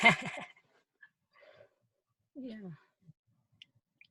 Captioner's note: laughs